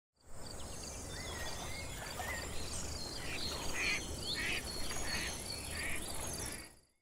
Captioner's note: birds chirping and ducks quacking